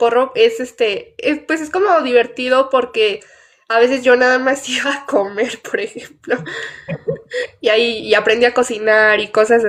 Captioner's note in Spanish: risas